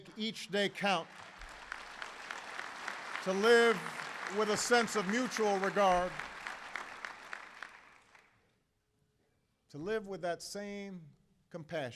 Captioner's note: applause